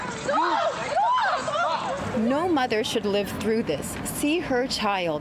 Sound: yelling

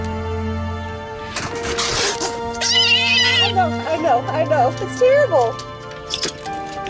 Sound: clamor; hiss; yowls

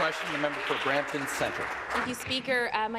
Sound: applause

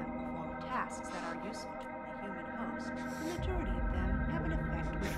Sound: sniffing

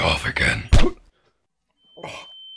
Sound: slap

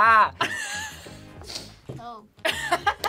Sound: React laughs

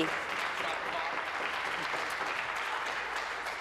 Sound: applause

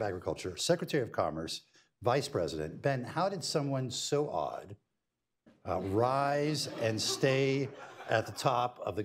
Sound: laughter

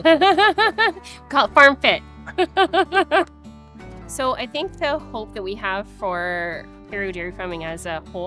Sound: laughs

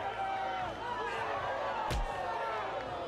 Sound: crowd cheering; punching

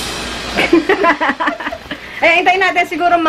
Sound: laughs

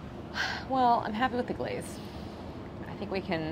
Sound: sighs

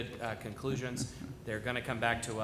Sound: ~audio distortion~

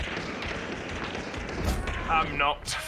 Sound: rapid gunshots; gunshots; player death noise

